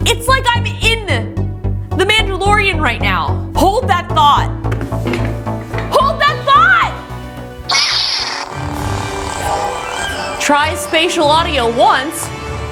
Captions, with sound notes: It's like I'm in "The Mandalorian" right now. Hold that thought. Hold that thought! (light saber sounds) Try spatial audio once.